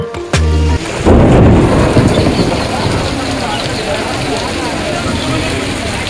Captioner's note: booming thunder